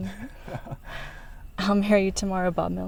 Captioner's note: Bob laughs